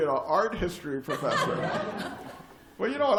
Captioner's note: laughter